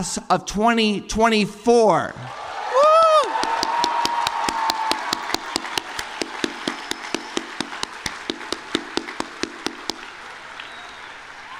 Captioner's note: applause